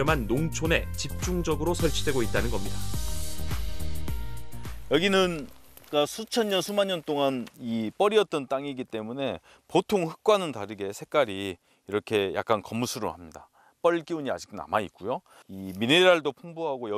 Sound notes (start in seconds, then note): 4.0 voiceover